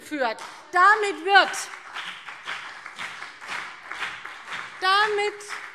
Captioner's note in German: Beifall BÜNDNIS 90/DIE GRÜNEN und vereinzelt CDU